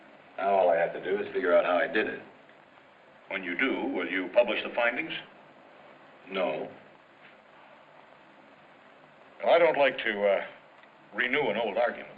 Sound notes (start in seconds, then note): none